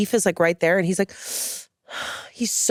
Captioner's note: hisses